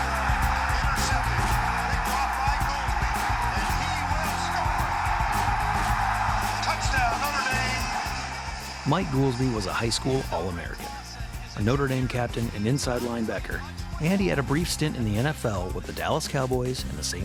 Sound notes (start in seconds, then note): 0.1 football stadium cheering; 6.3 cheering continues